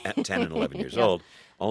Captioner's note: soundbite of laughter